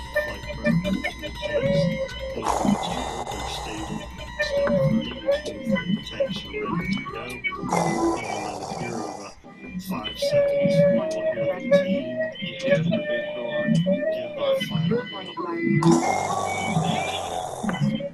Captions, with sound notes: A young Dwarf prince... ...facing down the pale Orc. He stood alone against this terrible foe. [AZOG ROARS]